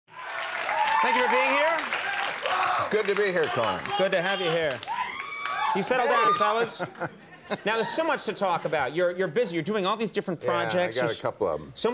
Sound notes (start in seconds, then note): 0.1 audience cheering; 5.2 crowd screaming